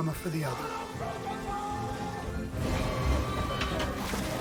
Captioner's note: men shouting